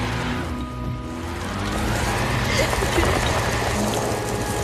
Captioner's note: wheels spinning; sobbing